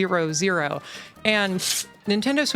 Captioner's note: paper tear